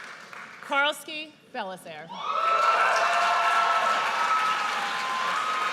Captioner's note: audience cheers